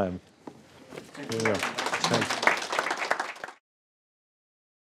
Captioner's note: applauding